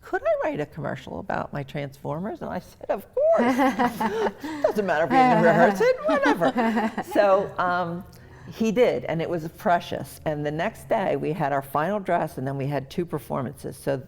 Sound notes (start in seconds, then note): 8.1 laughing